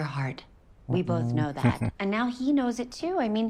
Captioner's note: chuckling